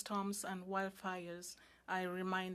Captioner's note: speaking French